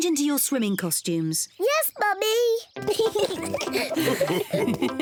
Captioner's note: both giggle excitedly; mummy pig and daddy pig chuckle